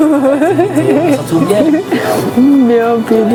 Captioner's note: laughing